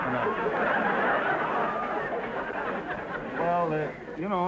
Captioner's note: audience laughter